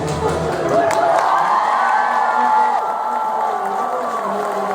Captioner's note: audience applauding